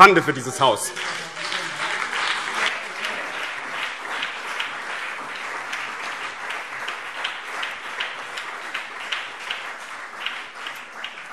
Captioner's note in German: Beifall BÜNDNIS 90/DIE GRÜNEN, CDU, SPD und Freie Demokraten